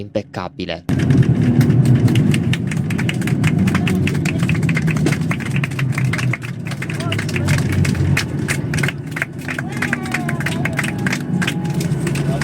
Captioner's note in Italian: applausi